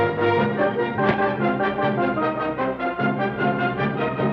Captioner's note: thud